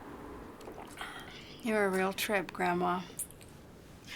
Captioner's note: sighs